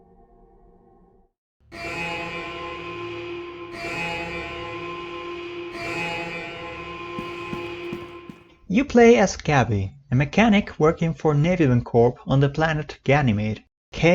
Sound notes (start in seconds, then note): 1.6 siren blaring; 7.1 footsteps